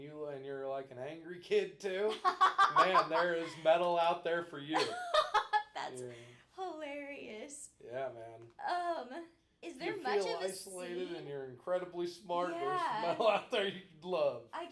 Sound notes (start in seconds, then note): 4.7 laughing